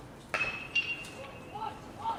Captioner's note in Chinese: 棒球声